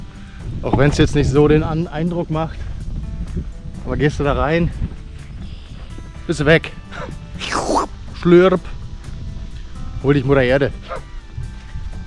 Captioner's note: sip